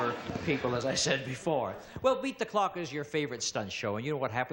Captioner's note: audience laughs; laughs